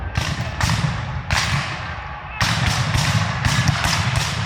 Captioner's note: guns fire